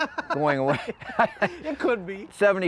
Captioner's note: both chuckling